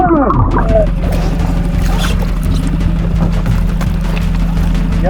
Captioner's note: motor boat whirring